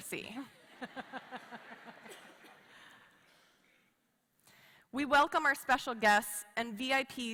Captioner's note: laughter